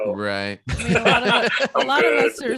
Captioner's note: laughter